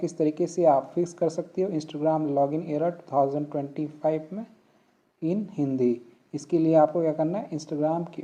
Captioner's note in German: auf Hindi